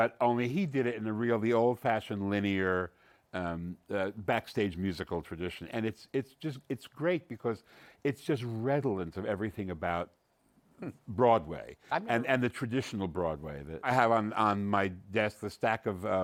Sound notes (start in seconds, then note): none